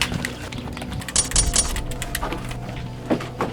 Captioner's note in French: Bruit de pistolet vide